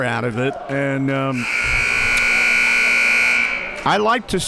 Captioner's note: buzzer blares